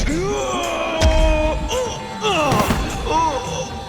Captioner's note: screams